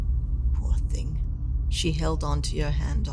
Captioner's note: whispering